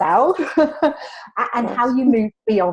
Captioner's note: laughs